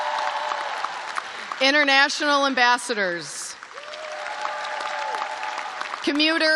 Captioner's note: cheers and applause